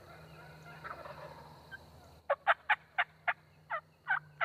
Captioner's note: turkey calls